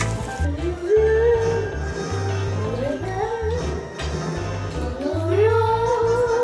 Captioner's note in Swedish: nynnar med i filmintrot